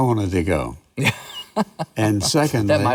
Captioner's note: laughs